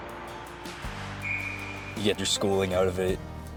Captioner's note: uplifting music; whistle blowing